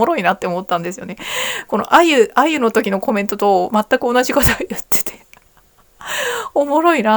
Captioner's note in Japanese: 息をのむ音